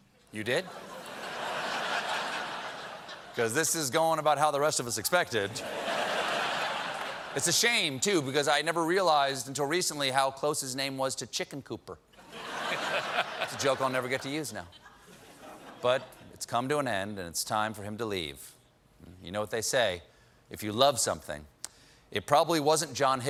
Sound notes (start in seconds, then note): 5.5 laughter; 14.6 laughter